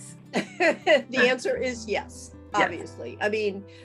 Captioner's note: laughing